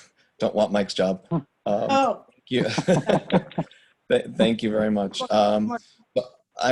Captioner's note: laughter